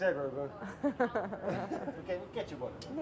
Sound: laugh

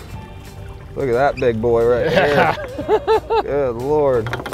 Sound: chuckles

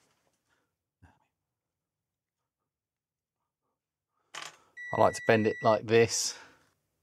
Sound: beeping

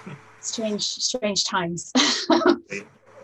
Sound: laughs

